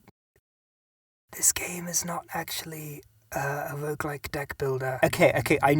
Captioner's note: whispers